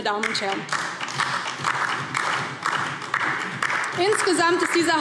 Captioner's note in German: Beifall DIE LINKE